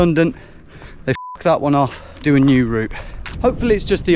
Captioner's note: beep